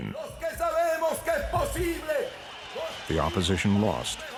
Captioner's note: speaking in Spanish